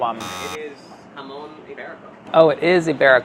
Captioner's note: buzzing